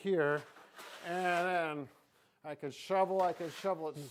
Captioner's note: shovel scraping